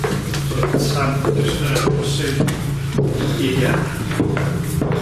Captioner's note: both chattering